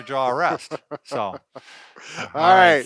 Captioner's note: laughs